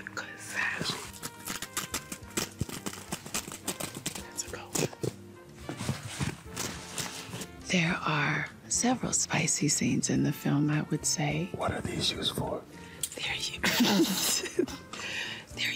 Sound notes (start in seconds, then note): 0.8 fabric tearing; 13.6 laughing